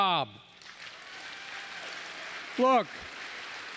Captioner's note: applause